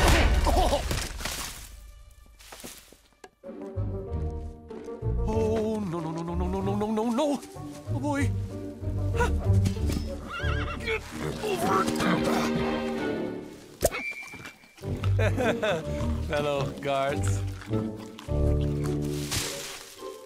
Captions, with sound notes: -Aah! -(smacking sound) Ah-huh-huh. Oh, no, no, no, no, no, no. Oh, boy. Huh! -(horse whinnying) -Get over...! (chuckles nervously) fellow guards.